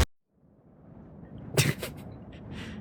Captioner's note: pft